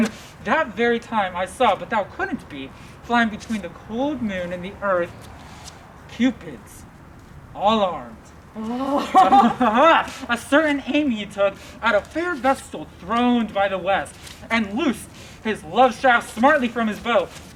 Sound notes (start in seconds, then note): 8.6 laughs